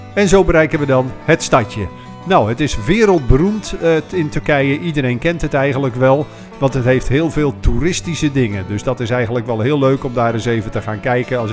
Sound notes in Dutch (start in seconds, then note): 0.1 Voiceover